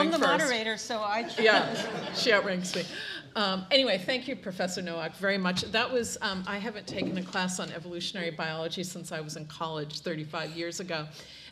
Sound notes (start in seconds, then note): 1.2 audience laughing